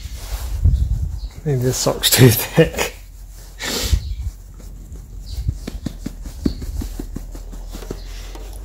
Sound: laughs

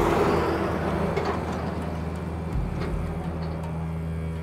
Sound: noisy construction work

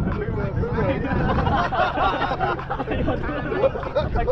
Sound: laughs

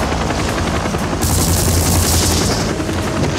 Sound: explode; gun shots

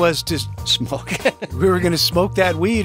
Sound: laughs

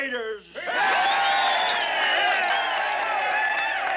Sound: crowd cheering

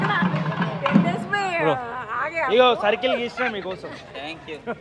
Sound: chatter in Telugu

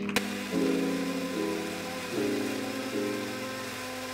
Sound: mixer sound

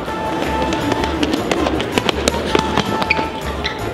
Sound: heavy footsteps

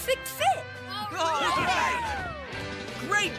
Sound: all cheering

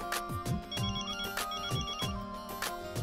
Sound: phone ringing

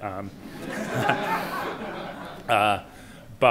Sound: laughter

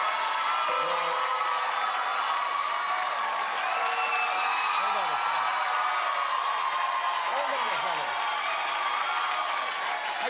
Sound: cheers and applause

